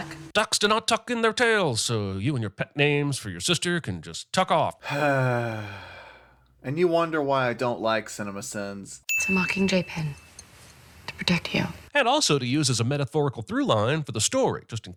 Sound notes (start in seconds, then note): 4.8 sigh